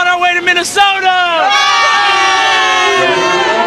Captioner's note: all cheering